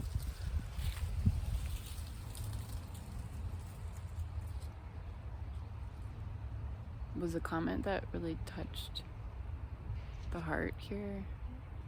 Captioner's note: wind